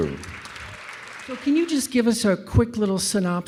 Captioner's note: audience applause